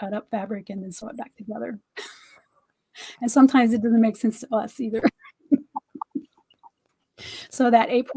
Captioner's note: laughter